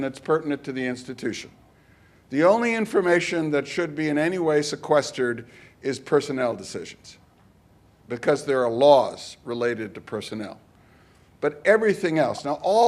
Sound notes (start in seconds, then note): none